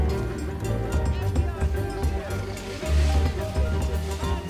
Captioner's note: man shouting